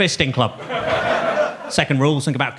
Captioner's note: audience laughs